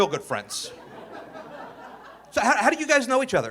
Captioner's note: audience laughing